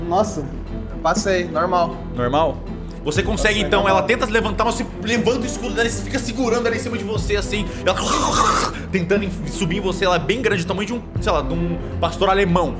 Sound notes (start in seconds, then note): 7.9 monster noise